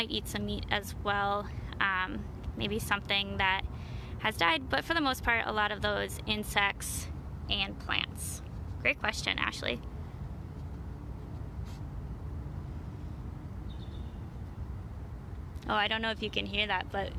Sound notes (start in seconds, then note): 13.7 bald eagle calling